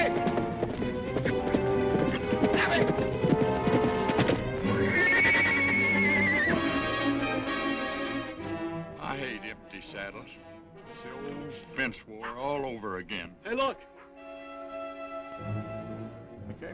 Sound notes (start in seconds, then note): 0.0 horse hooves clopping; 4.6 horse neighing; 6.6 dramatic music; 13.5 dramatic music